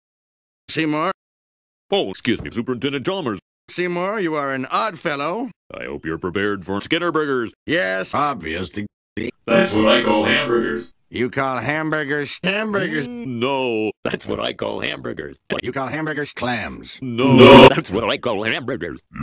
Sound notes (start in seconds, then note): 9.0 stuttering; 17.2 echo